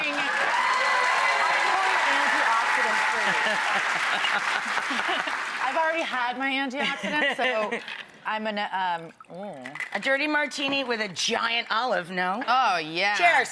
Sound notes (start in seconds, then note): 0.0 audience cheers and claps; 4.1 Rachael laughs; 6.8 Rachael laughs